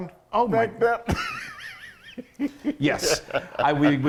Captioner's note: laughing